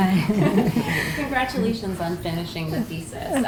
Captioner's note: laugh